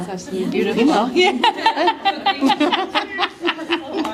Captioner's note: laughter